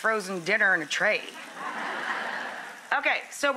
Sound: laughter

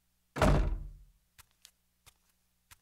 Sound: door closes

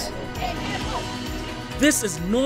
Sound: cheering

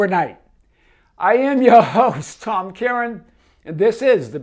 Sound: laughs

